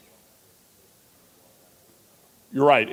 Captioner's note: audience member speaking off-mic